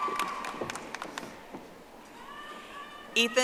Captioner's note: audience applauding